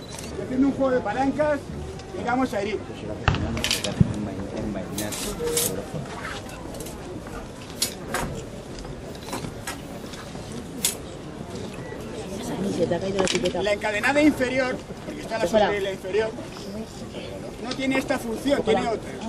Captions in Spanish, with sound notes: y haciendo un juego de palancas le vamos a herir. [ chocan las espadas, el público comenta ] La "encadenada inferior", que está sobre la inferior, no tiene esta función, tiene otra.